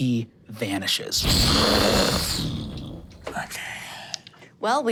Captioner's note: imitates explosion